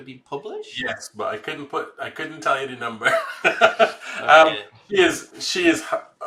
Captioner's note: laughs